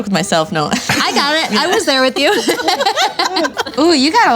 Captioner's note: laughing